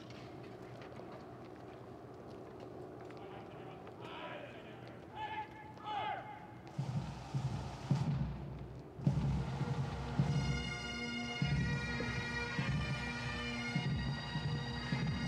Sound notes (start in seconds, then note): 5.0 sergeant Major shouts order; 9.0 bagpipes and drums